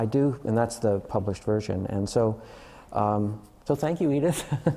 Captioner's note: laughter